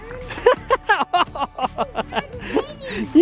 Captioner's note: laughs